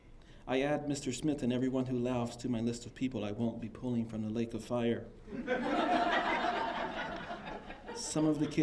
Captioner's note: laughter